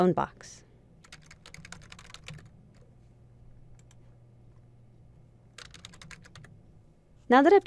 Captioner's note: typing